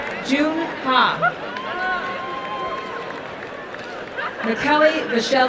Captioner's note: applause and cheering